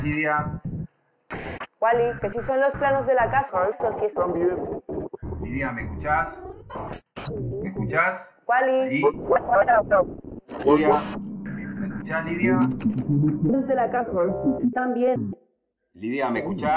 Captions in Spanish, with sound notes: ¿Me escuchás, Lidia? ¿Wally? ¿Que si son los planos de la casa estos, que si están bien? Lidia, ¿me escuchás? ¿Me escuchás? ¿Wally? (VOZ DISTORSIONADA) ¿Me escuchás, Lidia? (VOZ DISTORSIONADA) De la casa... están bien.